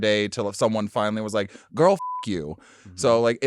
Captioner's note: beep